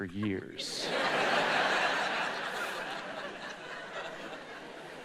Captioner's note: audience laughs